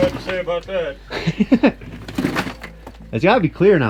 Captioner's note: laughing